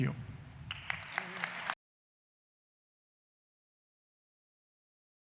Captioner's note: audience applauding